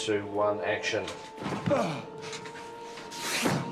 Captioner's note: groans